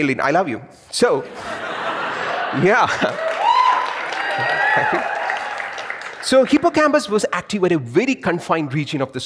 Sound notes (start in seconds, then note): 1.2 audience laughs and cheers